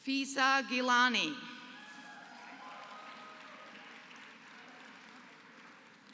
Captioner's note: applause